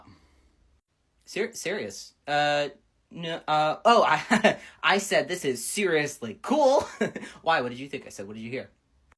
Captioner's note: nervous laughter